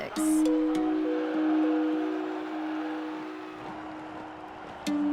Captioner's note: audience cheers